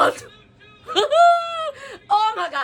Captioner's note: laughs